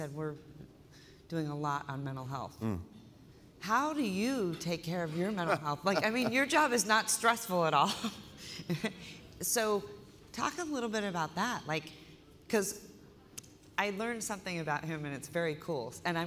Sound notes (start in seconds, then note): 5.3 laughter; 9.4 laughter